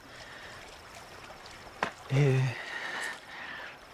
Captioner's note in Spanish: Murmullo del agua de la piscina